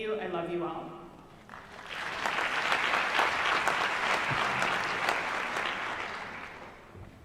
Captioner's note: applause